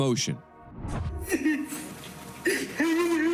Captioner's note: crying